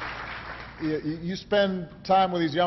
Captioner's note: applause